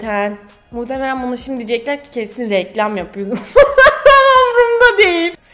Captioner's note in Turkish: Gülüyor